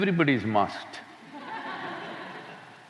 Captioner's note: laughter